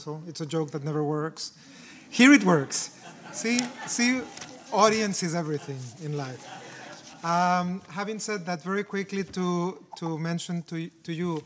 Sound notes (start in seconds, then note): 2.0 audience laughing; 2.0 audience chuckling